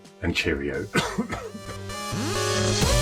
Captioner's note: coughing; upbeat electronic music